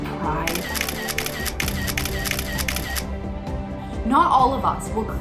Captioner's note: camera shuttering